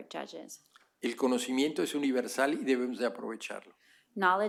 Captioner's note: speaking spanish